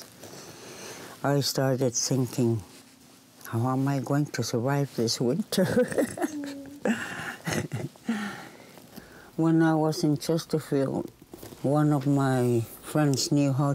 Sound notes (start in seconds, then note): 5.6 laughing